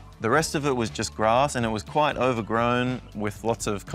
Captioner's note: none